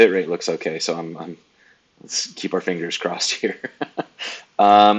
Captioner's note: laughs